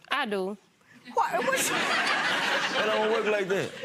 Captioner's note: audience laughing